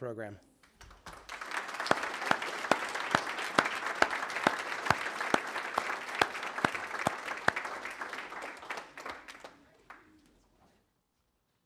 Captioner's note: applause